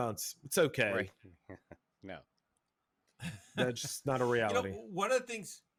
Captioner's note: laughs